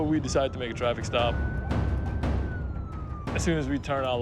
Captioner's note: siren wailing